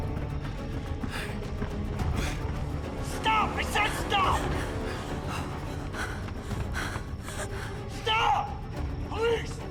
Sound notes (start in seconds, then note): 0.0 running footsteps; 4.2 running footsteps, panting